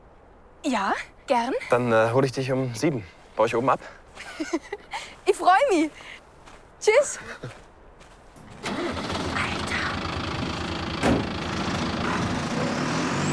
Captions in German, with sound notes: Ja, gern! Dann hole ich dich um sieben ab. (kichern) Ich freue mich! Tschüss! (leise) Alter!